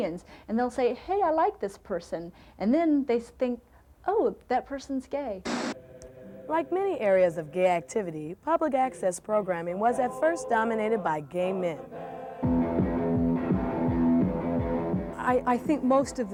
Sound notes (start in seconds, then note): 5.4 static noise; 12.4 theme music